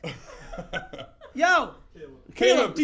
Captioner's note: laughs